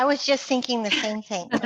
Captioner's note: laughter